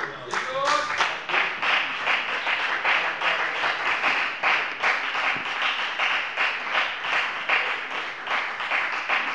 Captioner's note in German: Lebhafter Beifall bei der FDP